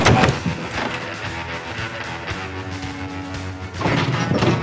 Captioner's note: gunfire